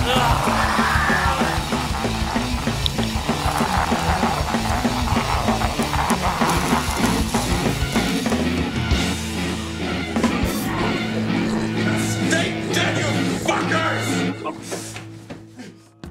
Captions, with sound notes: (zombie screams) (music crashing) (static buzzing) (frantic music) - Stay dead, you fuckers.